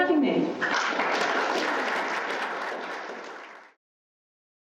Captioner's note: applause